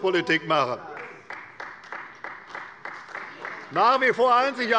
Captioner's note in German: Beifall bei Abgeordneten der CDU